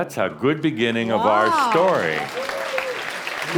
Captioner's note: audience applause